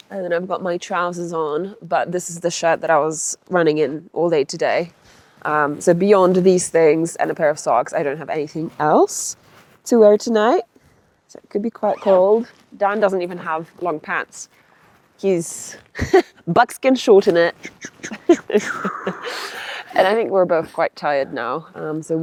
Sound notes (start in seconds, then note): 11.7 zipper zooms; 17.4 laughs